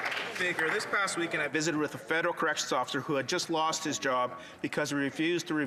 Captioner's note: some Applause